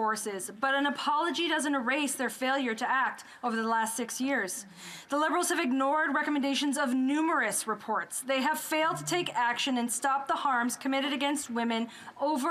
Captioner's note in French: voix de l'interprète